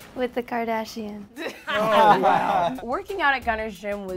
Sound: laughing; unimpressed laughing

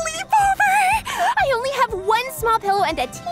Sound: cheerful banjo music; gasps

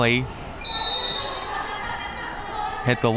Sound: whistle

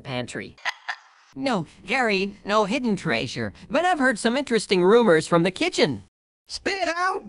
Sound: laughs; aggressively

